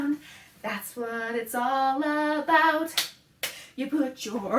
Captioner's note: clap, clap